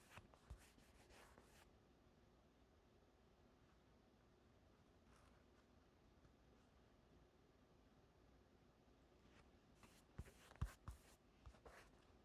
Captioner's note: silence